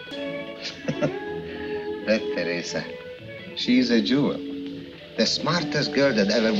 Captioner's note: chuckling